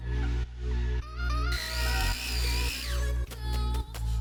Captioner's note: sound of blender and patting